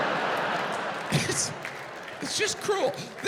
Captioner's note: audience laughing